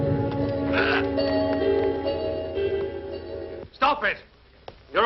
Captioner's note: Walter groans